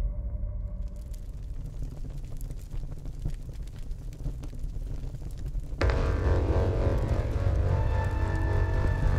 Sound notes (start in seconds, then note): 0.8 flames crackling; 5.8 ominous music